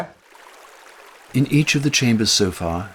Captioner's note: river flows